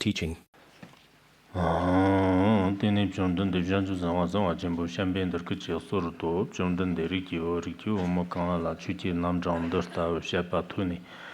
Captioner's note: giving oral transmission in Tibetan